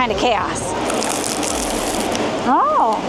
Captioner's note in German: Knirschen